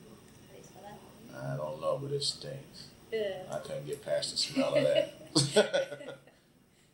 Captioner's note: both laugh